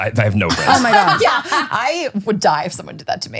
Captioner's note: laughing